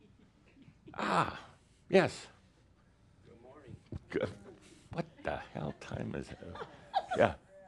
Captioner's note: someone giggles